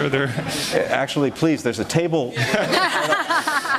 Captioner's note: laughter; laughter